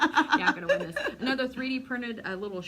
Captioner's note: laughter